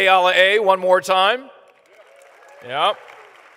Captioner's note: applause